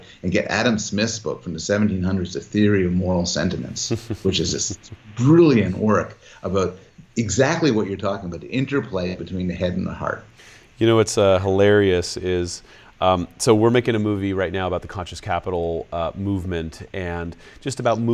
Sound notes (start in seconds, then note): 3.6 laughs